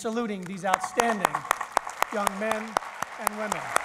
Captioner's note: applause